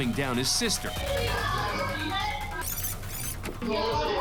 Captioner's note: angry chatter